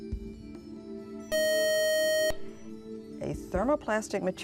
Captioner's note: buzzer